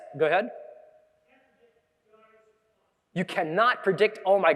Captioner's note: audience member speaking softly